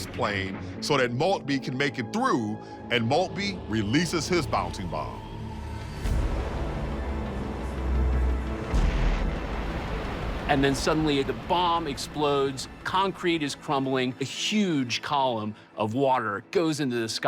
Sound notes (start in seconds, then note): 5.5 water crashing; 8.6 bomb exploding